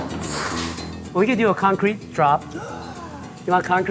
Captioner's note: gasps